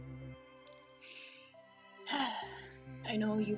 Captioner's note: deep sigh